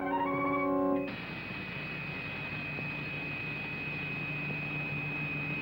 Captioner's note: electricity crackling